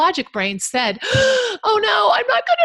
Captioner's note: gasps